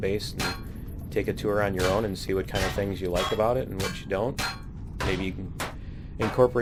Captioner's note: pinging